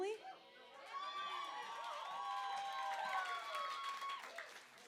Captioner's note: cheering